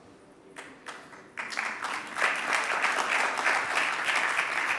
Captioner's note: audience applauding